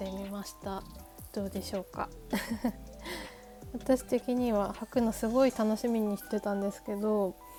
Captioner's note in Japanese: 笑い